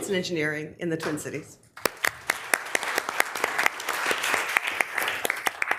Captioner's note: members applauding